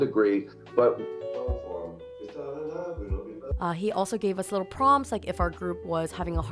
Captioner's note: hums melody